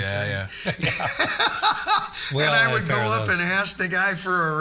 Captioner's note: laughing